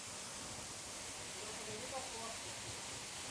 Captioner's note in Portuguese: som de cachoeira